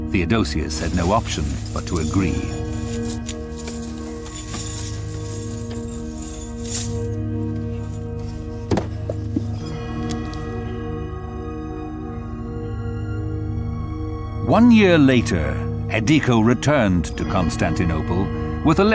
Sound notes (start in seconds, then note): 2.9 clanking